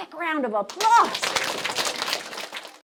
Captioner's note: applause